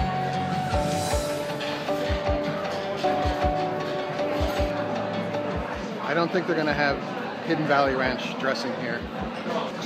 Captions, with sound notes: (people chatter) I don't think they're gonna have Hidden Valley Ranch dressing here.